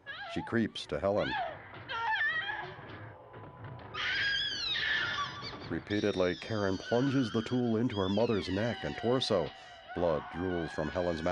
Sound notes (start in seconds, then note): 3.8 screaming